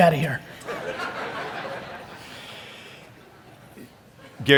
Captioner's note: audience laugh